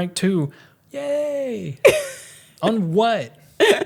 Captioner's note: laughs